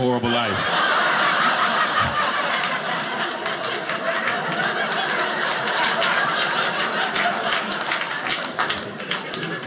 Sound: audience cheering

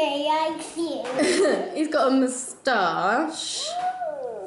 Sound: laughs

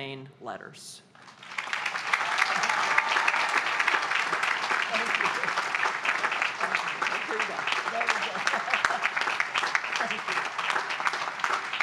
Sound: applause

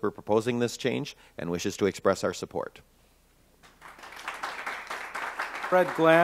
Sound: applause

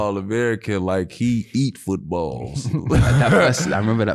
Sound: laughs

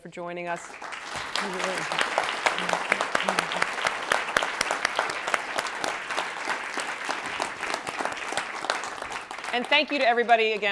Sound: applause

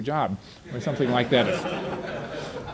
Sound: audience laughter

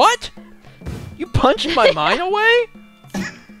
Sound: laughs

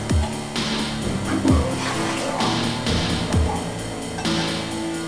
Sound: barfing; puking

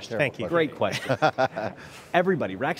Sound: laughing

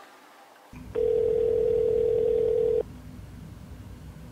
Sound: dial tone

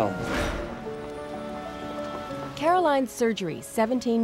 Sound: whoosh

